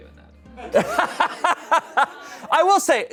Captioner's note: everyone laughs